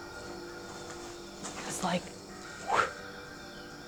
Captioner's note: wind noise